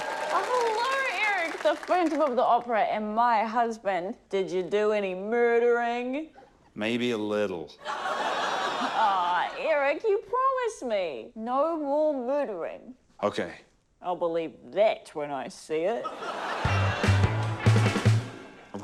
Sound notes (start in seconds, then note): 7.8 laughter; 16.0 laughter; 16.6 bright music